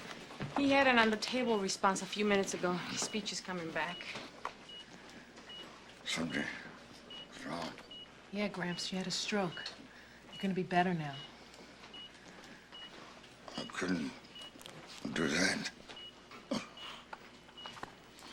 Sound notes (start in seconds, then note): 4.7 monitors beeping